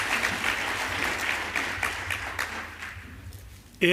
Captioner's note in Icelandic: fagnaðarlæti